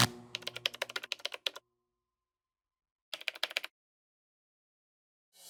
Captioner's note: typing